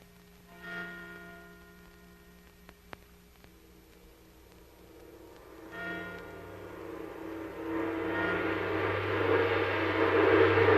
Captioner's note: clock chiming; suspenseful music playing